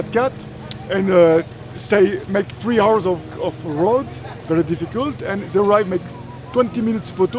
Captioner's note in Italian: Inglese